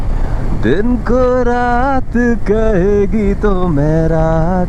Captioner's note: humming a song